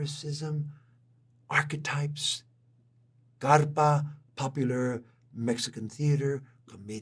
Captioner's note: spanish